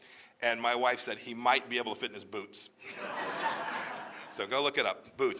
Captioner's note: laughter